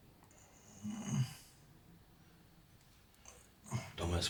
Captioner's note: Anderson groaning